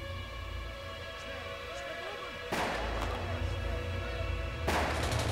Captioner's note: soldiers shouting in German